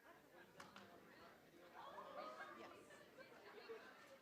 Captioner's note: chattering